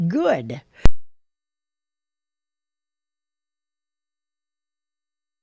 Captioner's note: audio cuts out